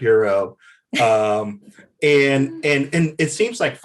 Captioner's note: Desi laughs